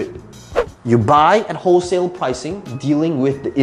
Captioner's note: air whooshing